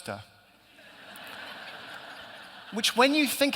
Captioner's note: laughter